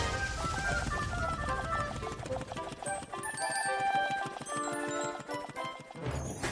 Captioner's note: put-putting